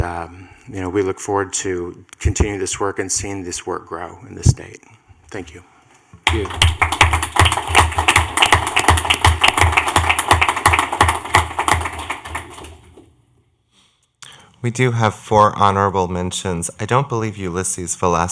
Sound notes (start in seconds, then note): 6.2 clapping